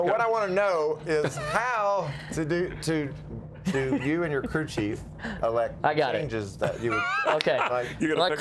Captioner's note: laughter